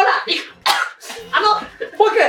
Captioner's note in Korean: 켈록; 오공같이+3초에 한번 기침